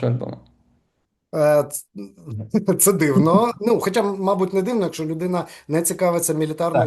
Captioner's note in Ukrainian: сміється